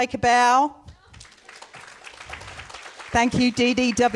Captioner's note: audience applauds